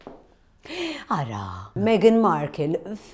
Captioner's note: gasps